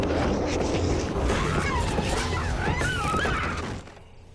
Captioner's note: screaming